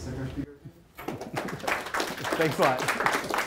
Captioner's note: applause